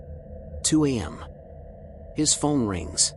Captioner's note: lowers voice